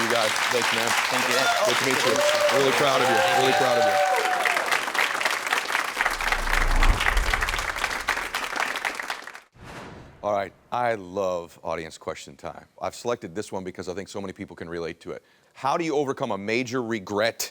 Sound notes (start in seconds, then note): 3.9 audience clapping; 6.0 graphic whooshes; 7.3 audience clapping